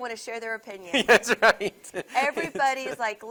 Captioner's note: laughs